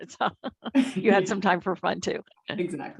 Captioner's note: laugh